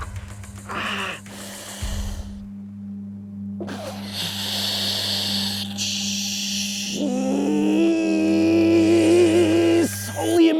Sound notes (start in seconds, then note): 0.6 inhales; 3.7 exhales